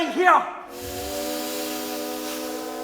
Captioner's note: steam engine puffs